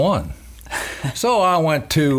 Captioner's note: laughing